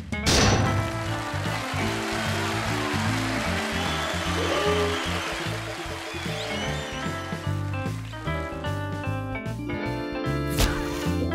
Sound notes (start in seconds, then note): 1.2 cheers and applause